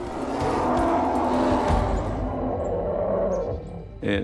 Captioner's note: voiceover; bear growling